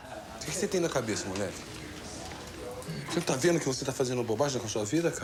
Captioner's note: speaking foreign language